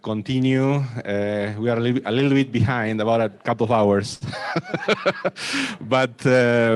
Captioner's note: laughs